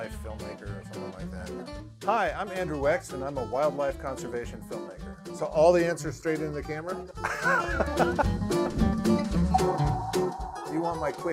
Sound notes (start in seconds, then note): 7.2 laughing; 8.9 upbeat music